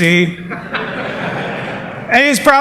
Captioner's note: laughter